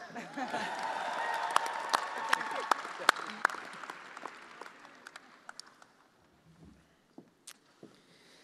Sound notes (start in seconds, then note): 3.7 attendees cheering